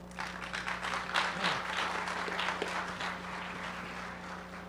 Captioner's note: audience applauding